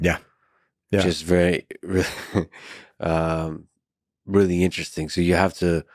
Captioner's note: laughs